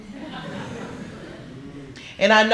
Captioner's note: laughter